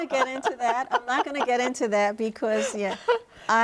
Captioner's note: laughs